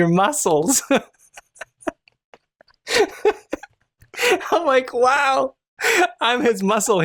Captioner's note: laughter